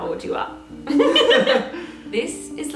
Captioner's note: both narrators laughing